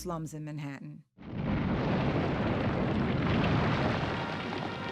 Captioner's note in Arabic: هدير المبنى